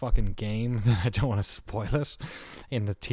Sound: laughs

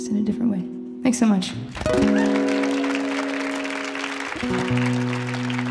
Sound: audience applauding

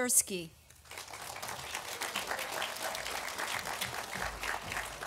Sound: audience applauding

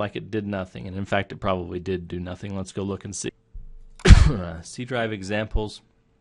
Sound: coughing

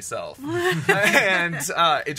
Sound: laughs

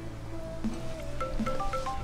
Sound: phone ring

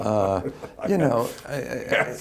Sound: laughter

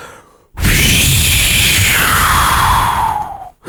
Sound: whoosh

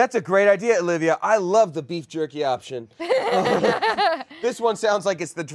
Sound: laughing

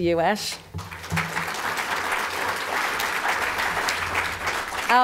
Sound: audience applause

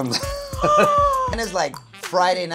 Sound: laughing; gasping

